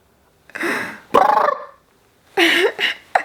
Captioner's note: trilling; laughing